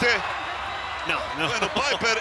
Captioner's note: laugh